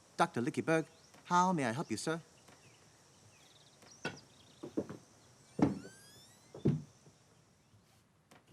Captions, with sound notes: - Doctor Lickybug, how may I help you, sir? (shoes tapping)